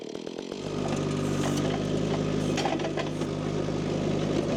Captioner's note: machine rumbling